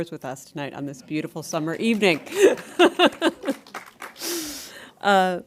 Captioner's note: laughs